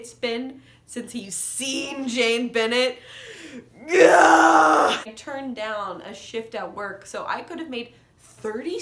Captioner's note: unbridled scream